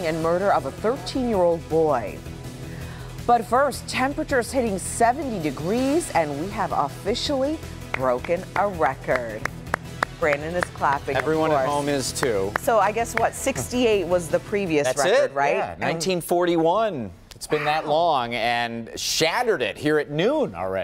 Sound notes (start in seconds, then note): 12.3 applause